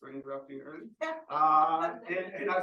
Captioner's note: audience laughing